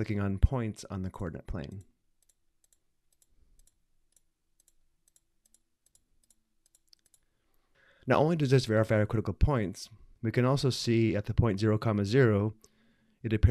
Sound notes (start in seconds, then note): 3.0 clicking sounds